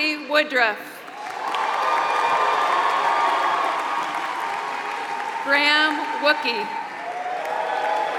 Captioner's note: applause